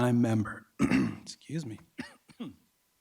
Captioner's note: clears throat